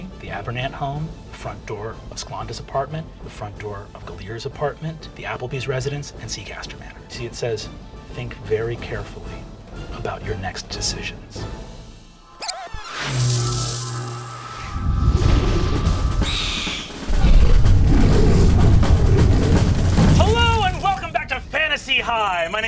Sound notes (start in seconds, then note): 12.3 tense music; 16.1 bird calling; 17.0 lion roaring